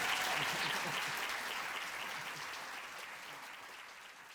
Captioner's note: applause